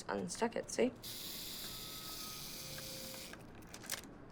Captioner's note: timer whirring